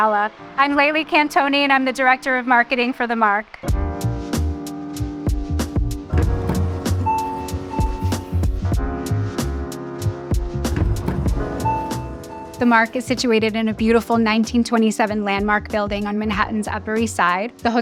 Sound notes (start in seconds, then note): 3.3 upbeat music; 6.2 elevator bell rings; 7.0 upbeat music